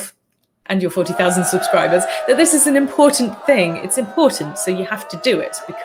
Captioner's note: crowds cheering